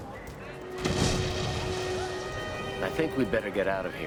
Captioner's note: explosion blasts